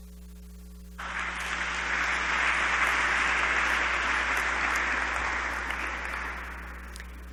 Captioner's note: applause